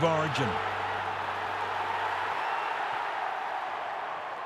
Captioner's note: crowd cheering